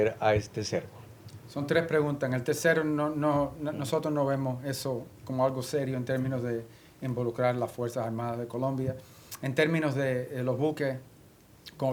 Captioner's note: speaking spanish